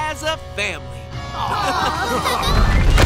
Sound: laughing

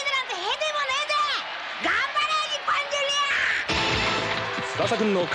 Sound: applause

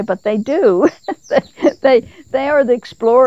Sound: chuckles

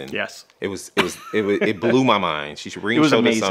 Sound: laughs

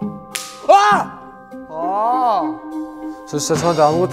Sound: whimpering

